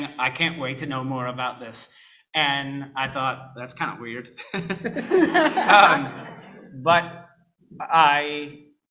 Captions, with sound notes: "I can't wait to know more about this." And I thought, that's kind of weird. (laughs)